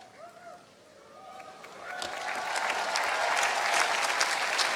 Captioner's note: applause